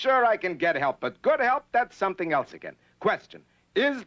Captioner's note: none